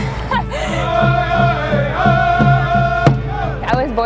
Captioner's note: laughs; chanting